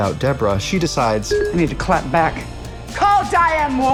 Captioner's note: phone chimes